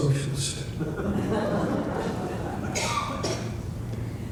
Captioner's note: laughter